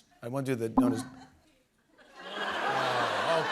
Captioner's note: laughter